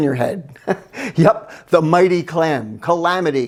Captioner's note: laughs